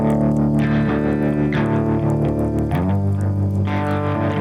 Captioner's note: crackling fire